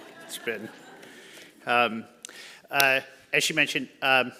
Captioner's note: audience laughing